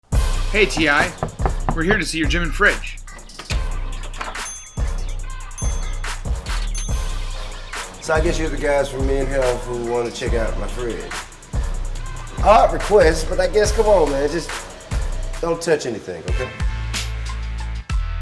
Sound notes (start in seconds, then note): 0.6 knocking